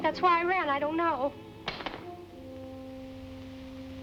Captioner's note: cane thudding